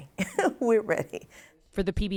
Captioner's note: laughter